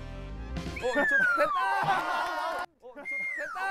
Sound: whistle~

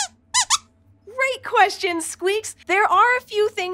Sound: squeaks squeaking

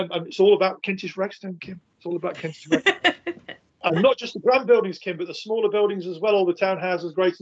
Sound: laughing

